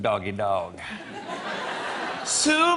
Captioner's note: laughter